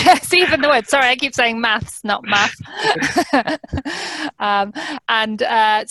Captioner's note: laughs